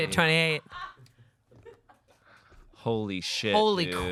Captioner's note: crew laughs